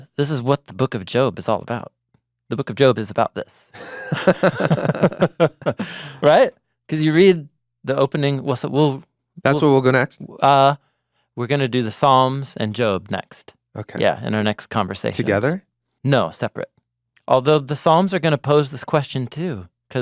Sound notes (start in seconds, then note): 3.7 both chuckle